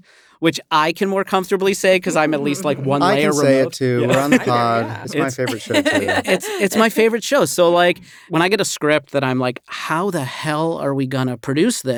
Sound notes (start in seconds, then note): 5.6 chuckling